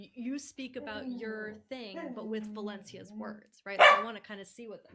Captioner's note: dog barking